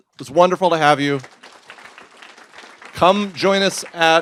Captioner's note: applause